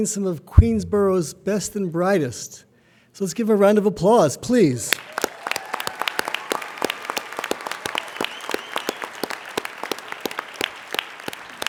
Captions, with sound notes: some of Queensborough's best and brightest. So let's give a round of applause, please. (applauding)